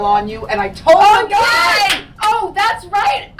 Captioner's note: claps hands